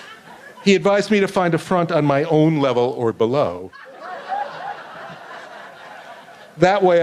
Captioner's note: laughter